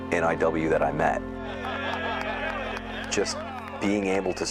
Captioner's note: crowd cheers and laughs